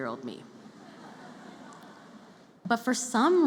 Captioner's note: laughter